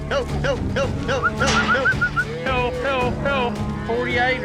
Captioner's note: calling